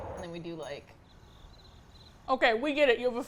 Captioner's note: crickets